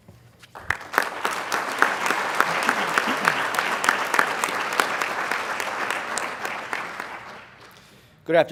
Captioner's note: applause